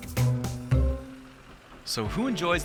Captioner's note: tractor engine purring